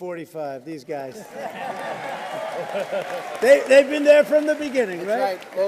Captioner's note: laughter and applause